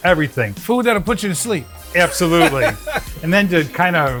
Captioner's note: laughing